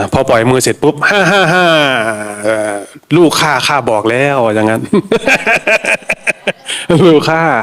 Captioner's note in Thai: เสียงหัวเราะ